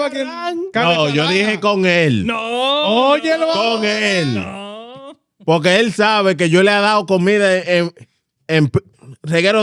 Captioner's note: speaking In Foreign Language